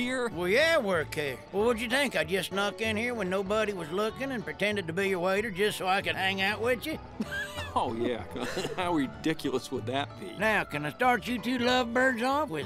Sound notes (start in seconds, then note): 7.2 laughs